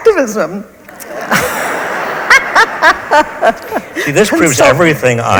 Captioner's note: audience laughs; laughs